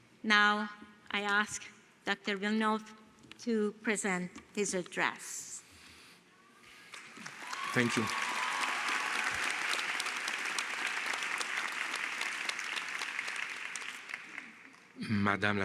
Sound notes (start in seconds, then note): 6.8 applause